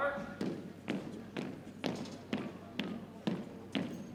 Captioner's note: boots thumping